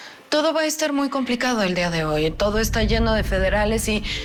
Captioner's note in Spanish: none